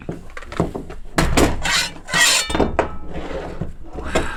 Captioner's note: plates scraping